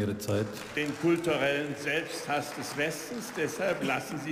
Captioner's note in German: Beifall